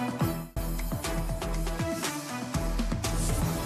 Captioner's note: none